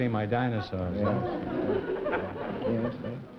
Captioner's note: laughter